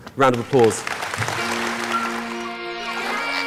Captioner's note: clapping